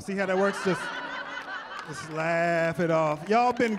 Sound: laughter

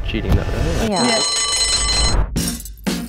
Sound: bell ringing; upbeat music

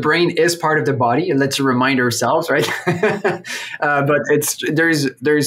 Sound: laughs

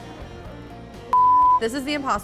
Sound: loud beep

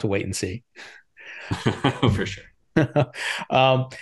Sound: chuckling

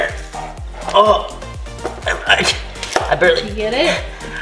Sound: grunts

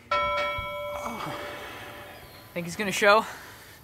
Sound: gong sound

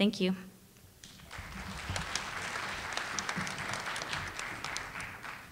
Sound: audience applauding

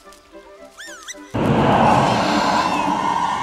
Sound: whistling

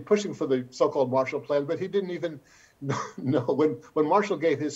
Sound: chuckles

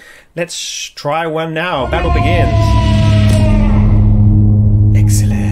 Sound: warrior yells, music swells

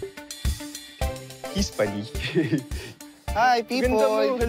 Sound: bright music playing; giggles

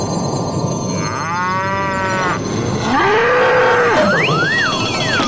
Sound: mooing

